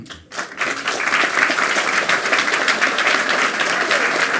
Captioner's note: applause